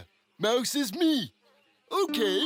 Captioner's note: laughing